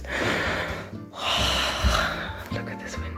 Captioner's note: happy sigh